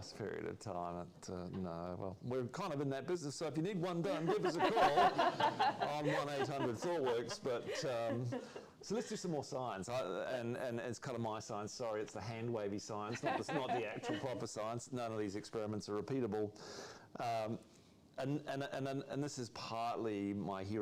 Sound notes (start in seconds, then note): 7.5 laughter